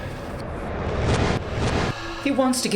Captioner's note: Evan whooshing